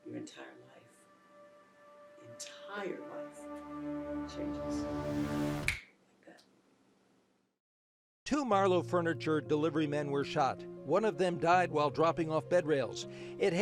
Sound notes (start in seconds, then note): 5.6 snaps fingers